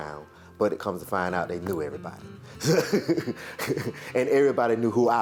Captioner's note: laughs